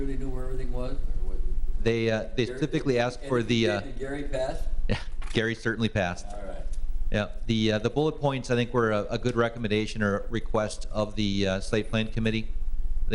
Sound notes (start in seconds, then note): 4.9 laughs